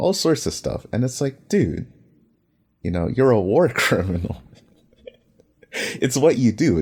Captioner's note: laughs